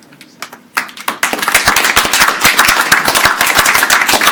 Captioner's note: all applauding